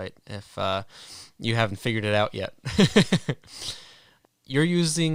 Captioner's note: chuckles